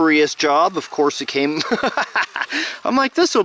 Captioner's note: laughing